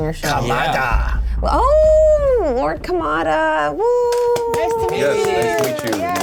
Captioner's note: applause